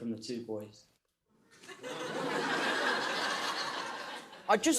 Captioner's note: laughter